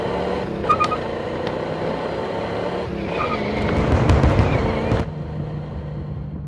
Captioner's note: traffic noise